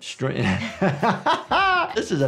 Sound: people laughing

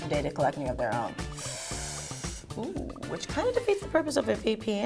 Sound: inhaling

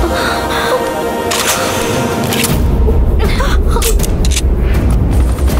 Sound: gun cocking; helicopter whirring

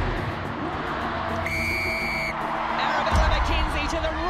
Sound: crowd; whistle blowing

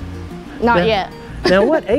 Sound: laughs

